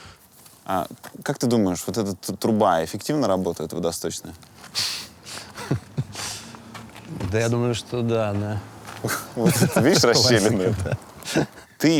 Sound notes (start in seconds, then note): 5.3 laughs; 11.3 laughs